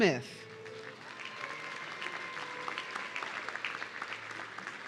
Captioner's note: audience cheering